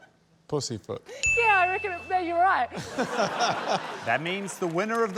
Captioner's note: blows whistle; ding!; laughter